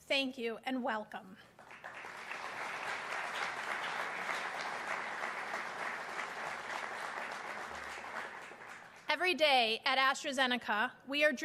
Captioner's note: applause